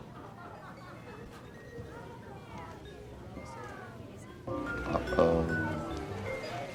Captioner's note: patrons chatter; buoyant music